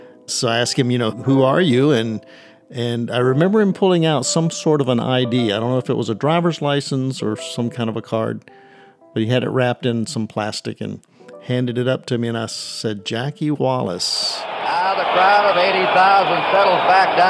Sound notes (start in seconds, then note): 13.4 soundbite from football game; 14.2 crowd noise, cheering